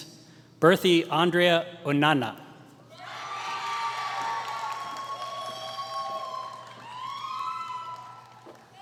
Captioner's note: applause